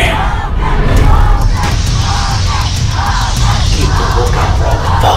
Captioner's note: poor children chanting in background